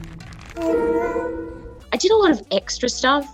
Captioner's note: baby gurgling